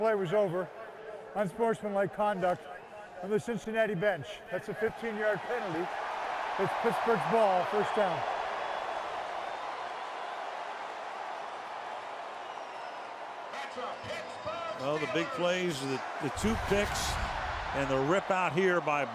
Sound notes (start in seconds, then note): 4.9 cheering